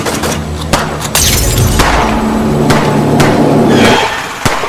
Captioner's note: tires screech; guns shoot